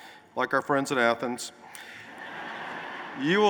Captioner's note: laughter